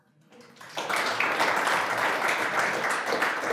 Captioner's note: audience applauding